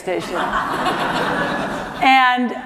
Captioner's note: laughter